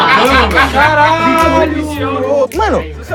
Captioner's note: risos